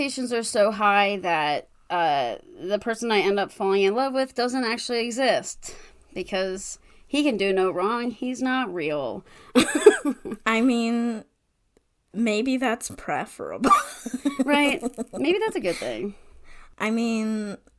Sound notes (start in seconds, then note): 13.7 laughs